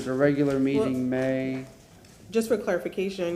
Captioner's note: off microphone